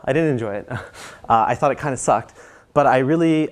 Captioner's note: laugh